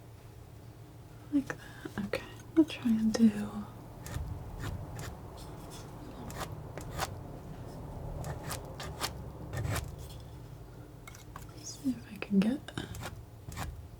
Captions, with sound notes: like that, okay, I'll try and do (scratching) (scratching) (scratching) (scratching) let's see if I can get that